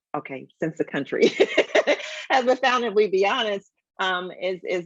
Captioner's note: laughs